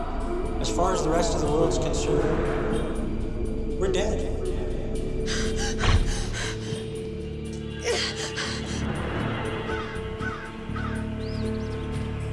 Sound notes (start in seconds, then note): 5.2 gasping